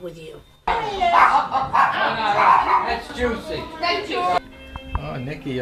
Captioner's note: people talking off-screen